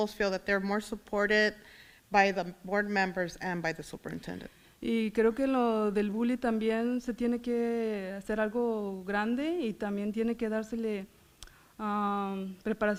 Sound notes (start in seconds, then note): 5.1 foreign language